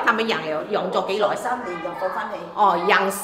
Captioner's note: Cantonese